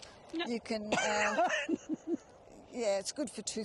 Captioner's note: laughing